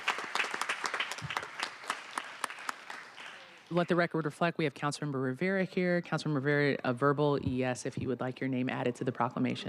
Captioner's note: applause